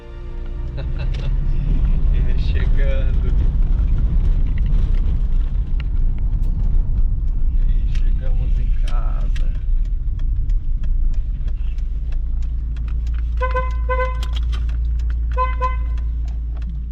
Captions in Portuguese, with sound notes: [Risos] E chegando! E chegamos em casa! [Buzina] [Buzina]